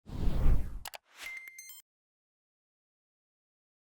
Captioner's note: whooshing